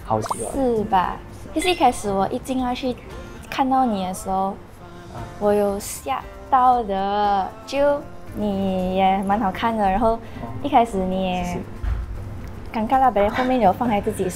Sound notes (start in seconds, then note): 0.2 surprised